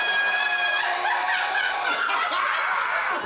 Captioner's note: laughs